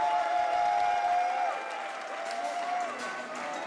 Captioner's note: crowd applause and cheers